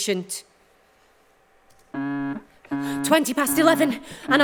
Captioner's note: an alarm sounds